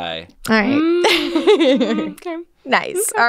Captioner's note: laughing